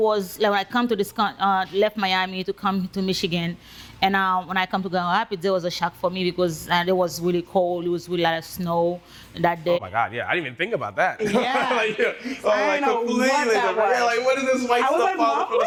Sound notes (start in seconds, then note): 11.2 laughing